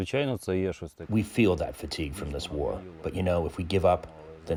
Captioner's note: through translator